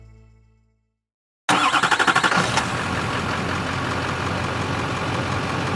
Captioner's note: truck engine starting